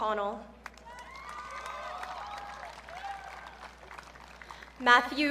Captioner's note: audience cheering